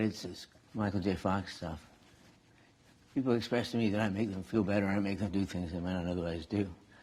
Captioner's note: none